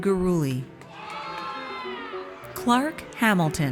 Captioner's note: audience cheers